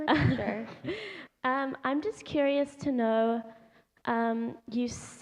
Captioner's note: laughter